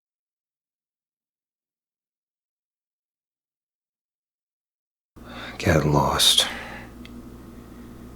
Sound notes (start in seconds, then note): 5.5 sighs